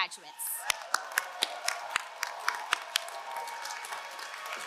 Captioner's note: all cheering; all applauding